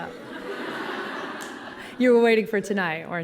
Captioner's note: collective laughing